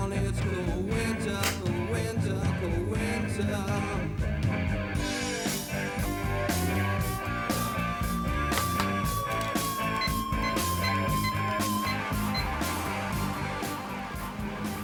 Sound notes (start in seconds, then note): 5.0 upbeat rock music; 10.3 phone buttons beeping